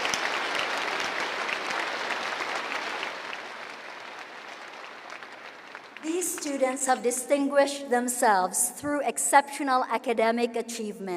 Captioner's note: cheering and applause